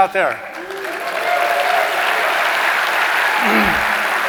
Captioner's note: audience applauding